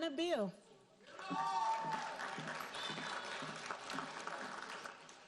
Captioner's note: audience applauding